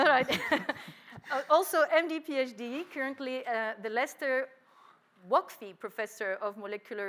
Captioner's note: laughs